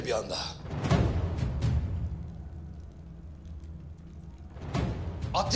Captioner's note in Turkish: Ateş çıtırtısı sesleri